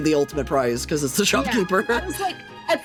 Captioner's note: laughing